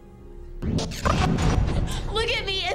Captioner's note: rapid startling swooshes